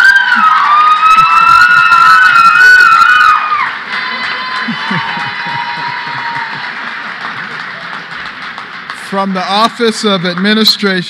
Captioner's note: cheers and applause